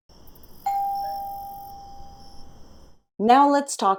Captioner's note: doorbell ringing, crickets chirping